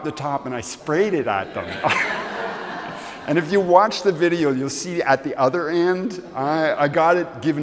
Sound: laughs

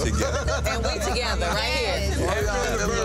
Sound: group laughing

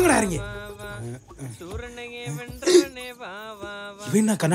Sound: humming a song

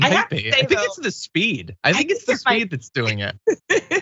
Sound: laugh

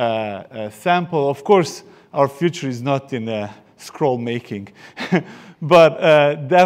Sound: chuckles

